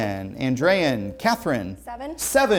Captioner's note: ringing